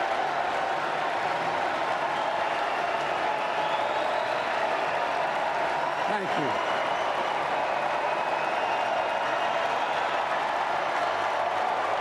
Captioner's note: applause